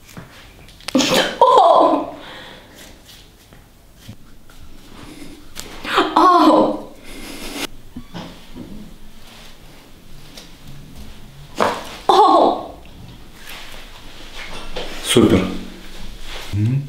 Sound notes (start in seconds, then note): 1.4 the girl screams after massage; 5.9 the girl screams after massage; 12.0 the girl screams after massage